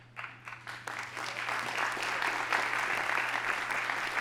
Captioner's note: audience applauding